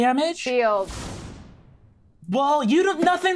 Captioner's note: energy reverberating